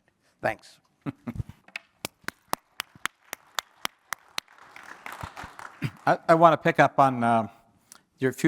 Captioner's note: applause